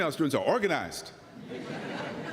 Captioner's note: laughter